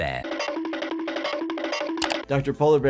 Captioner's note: comical sound effect